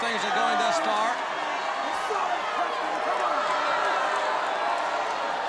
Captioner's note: crowd cheering